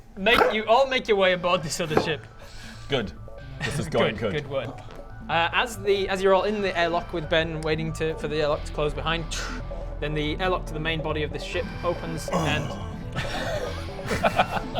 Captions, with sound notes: make, you all make your way aboard this other ship good this is going good good work as the as you're all in the airlock with Ben waiting for the airlock to close behind then the airlock to the main body of the ship opens *uggh* *childish giggles*